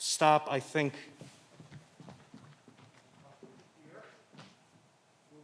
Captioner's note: footsteps receding